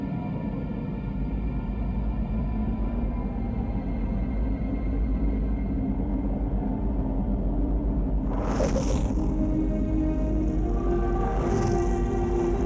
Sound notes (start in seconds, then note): 1.4 soft ambient music continues; 8.2 flames whooshing